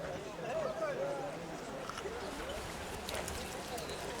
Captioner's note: people chattering